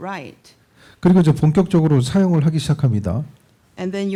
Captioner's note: speaking korean